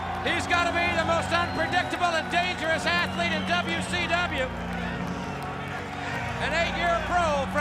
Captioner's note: crowd cheering